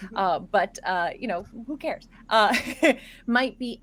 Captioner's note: laughs